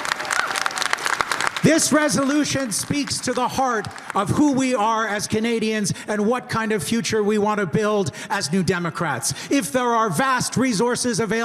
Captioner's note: cheering and applause